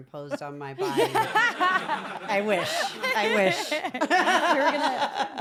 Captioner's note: laugh